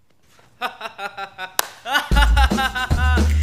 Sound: Cool Yul laughing; upbeat music playing

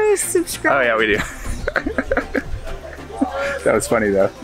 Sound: laughs

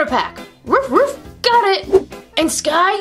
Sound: barks

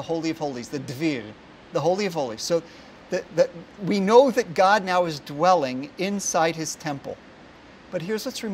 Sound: Hebrew

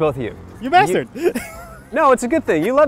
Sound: laughs

